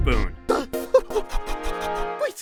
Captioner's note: rapid blowing